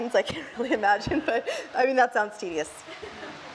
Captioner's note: laughs